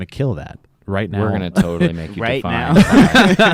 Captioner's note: chuckles